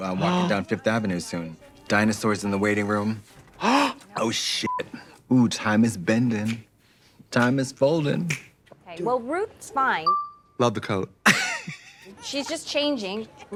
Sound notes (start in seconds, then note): 3.5 gasps; 4.6 beep; 8.2 snaps fingers; 11.3 Katya laughing